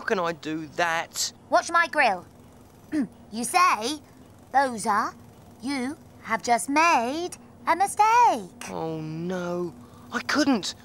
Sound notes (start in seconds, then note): 2.1 crane groaning